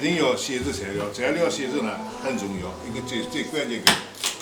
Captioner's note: wu Chinese; wu Chinese